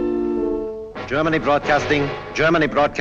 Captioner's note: radio broadcast